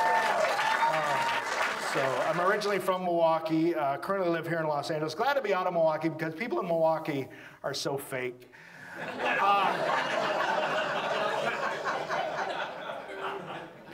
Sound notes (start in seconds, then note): 0.0 audience applauds; 8.9 audience laughs